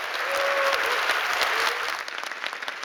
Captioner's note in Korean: 박수와 환호